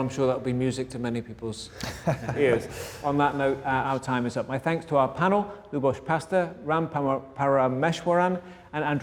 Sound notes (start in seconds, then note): 1.7 group laughter